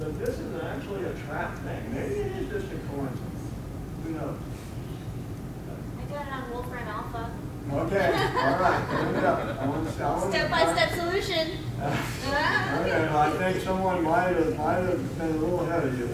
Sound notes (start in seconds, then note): 7.9 laughter